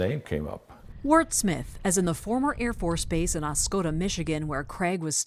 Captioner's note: voice-over